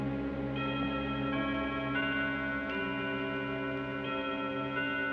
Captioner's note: clock chime